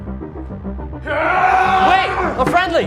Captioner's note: screams